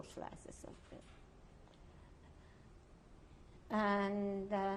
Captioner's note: pauses for 3 seconds